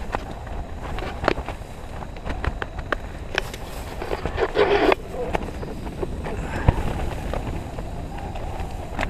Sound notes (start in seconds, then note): 5.0 gas burning